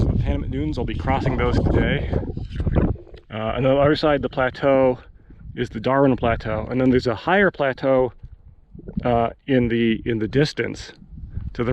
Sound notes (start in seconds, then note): 2.5 wind whistling